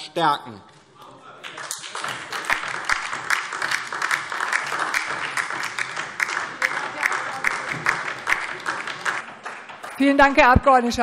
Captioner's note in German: Beifall DIE LINKE